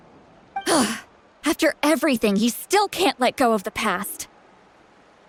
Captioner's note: scoff